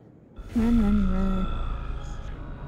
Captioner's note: non-english speech